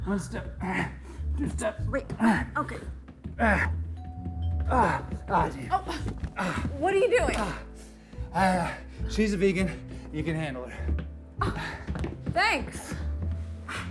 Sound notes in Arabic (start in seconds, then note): 3.3 تذمر; 4.0 رنين جرس الباب; 13.6 مايكل ينفخ